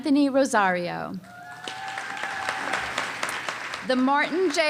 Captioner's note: cheering and applause